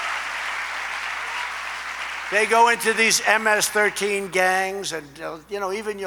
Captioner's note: applause